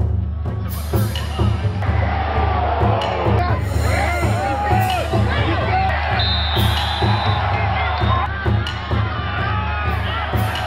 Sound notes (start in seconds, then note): 6.1 whistle blows